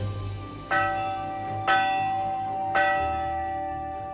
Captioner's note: clangs